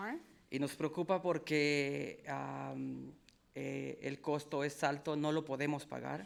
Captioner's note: speaking in foreign language